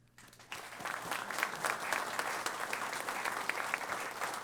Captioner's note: applause